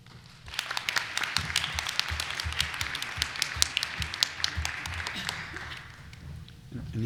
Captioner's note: applause